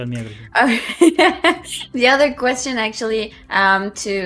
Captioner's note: laughs